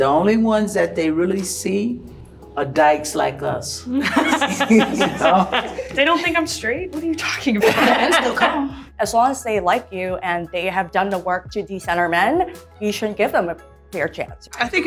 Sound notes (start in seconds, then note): 4.0 everyone laughing